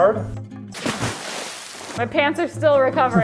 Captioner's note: liquid splashing